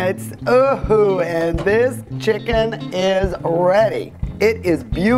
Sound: exclaims

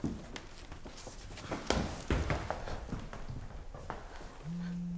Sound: phone buzz

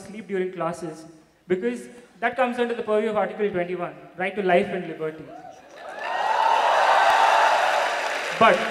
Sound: cheers/Applause

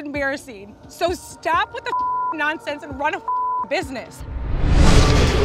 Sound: beep

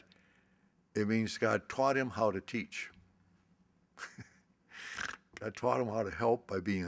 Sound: laughs

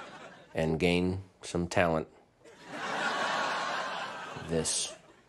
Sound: audience laughter

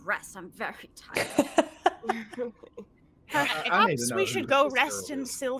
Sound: laughing

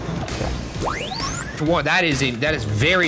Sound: electronic whoosh

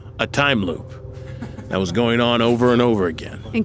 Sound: laughs

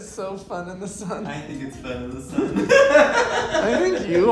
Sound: laughs

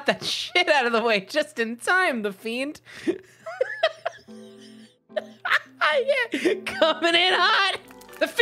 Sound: still laughing

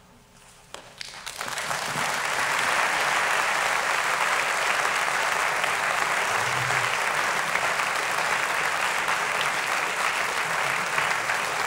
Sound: applause

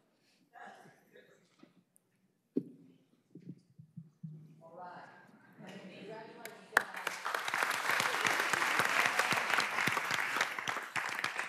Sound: laughter; applause

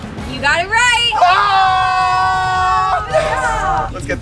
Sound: crowd screams

